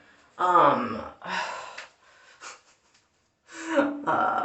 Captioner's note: giggle